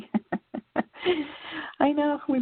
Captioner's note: laughter